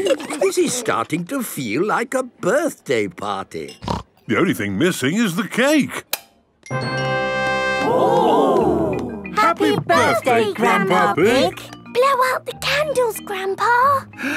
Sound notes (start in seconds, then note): 6.5 click